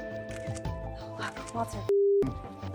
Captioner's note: camera snapping